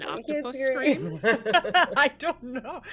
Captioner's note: laughs